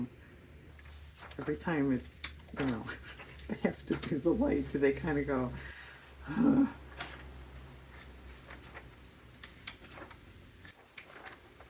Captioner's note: laughs; heavy sigh